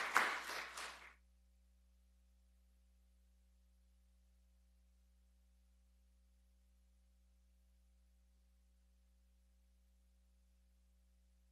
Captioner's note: applause